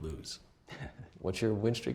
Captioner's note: chuckles